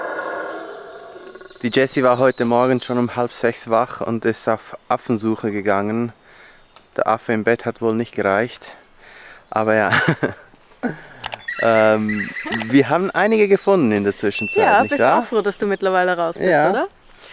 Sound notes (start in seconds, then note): 9.8 laughs